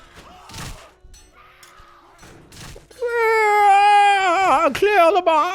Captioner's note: more Murder Noises